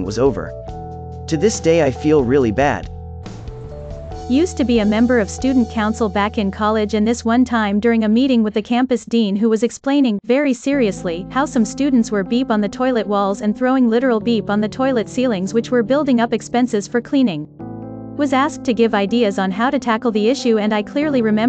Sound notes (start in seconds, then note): 8.0 very seriously